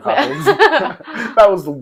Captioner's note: laughing